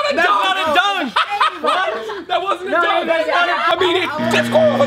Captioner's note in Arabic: يضحك